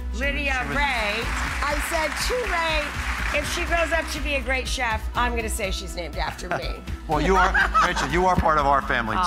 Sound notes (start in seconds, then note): 0.5 audience applauds; 7.3 laughs